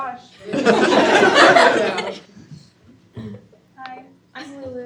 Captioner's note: students laugh